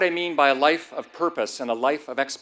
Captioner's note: none